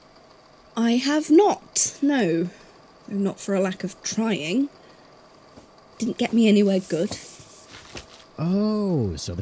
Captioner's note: rustling